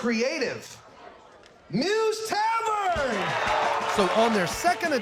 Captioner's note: crowd cheering, clapping